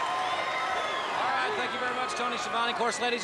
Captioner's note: crowd chatter